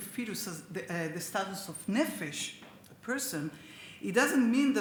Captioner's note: speaks Hebrew